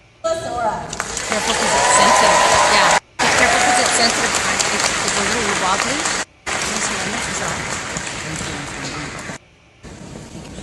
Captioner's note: applause